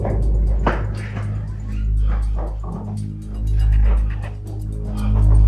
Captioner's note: breathes heavily; suspenseful music